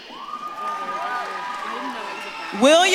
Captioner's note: audience claps and cheers